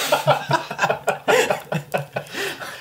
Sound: all laugh

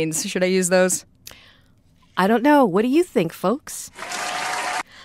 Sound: applause

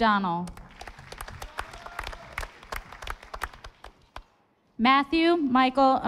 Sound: audience applauding

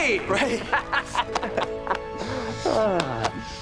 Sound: laughing

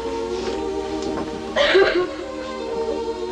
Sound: sobs

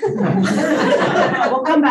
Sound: audience laughing

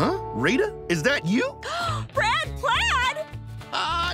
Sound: gasps

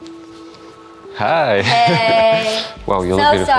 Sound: laughing

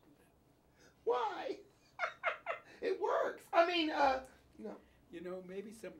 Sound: laughs

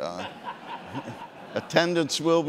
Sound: audience laughing

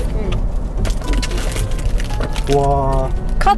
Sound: rummaging

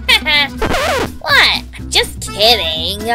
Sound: record scratches

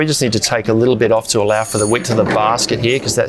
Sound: bell rings

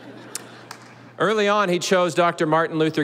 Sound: audience laughing

